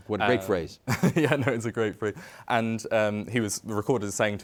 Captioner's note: chuckles